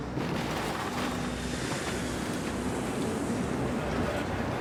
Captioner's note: airplane wheels rumbling